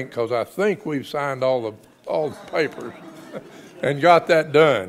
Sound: laughs; audience laughs

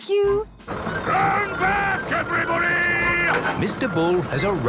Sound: shouting

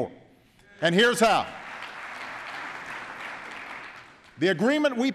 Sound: applause

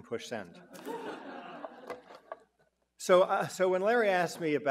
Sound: audience chuckling

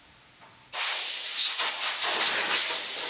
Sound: hissing

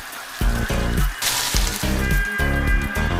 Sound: sizzling

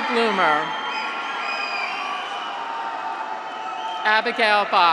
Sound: graduates cheer

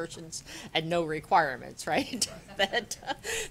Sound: laughter

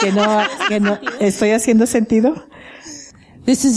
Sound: laughter

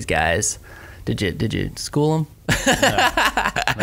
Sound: laughs

